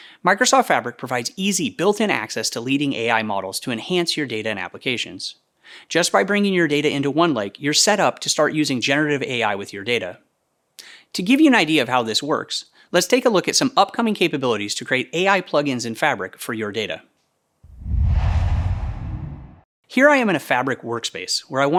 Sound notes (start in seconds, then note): 17.6 logo swooshes